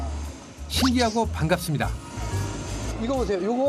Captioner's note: gulp~